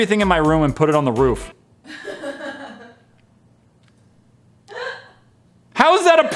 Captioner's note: laughs in background